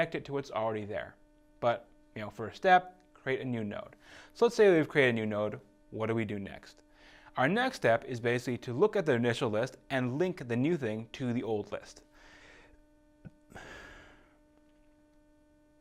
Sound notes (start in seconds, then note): 13.5 exhaling